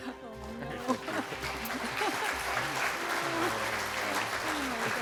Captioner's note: applause